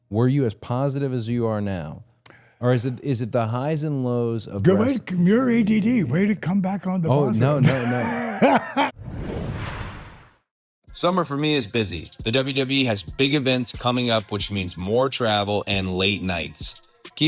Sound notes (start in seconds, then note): 7.2 Dallas laughs